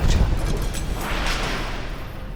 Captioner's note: distant bang